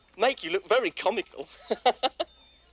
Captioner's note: laughs